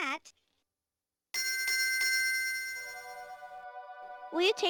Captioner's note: bell ringing